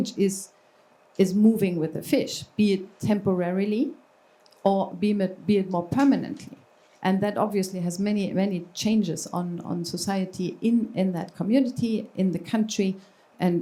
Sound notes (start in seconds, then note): none